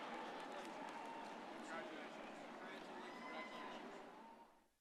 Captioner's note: background chatter